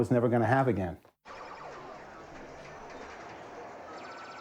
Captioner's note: arcade ambience